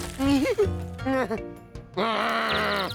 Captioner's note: whimpers; birds chirping